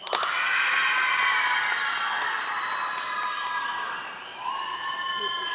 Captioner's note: audience cheering and applauding